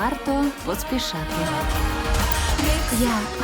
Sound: all laughing

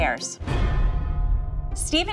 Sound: percussive hit

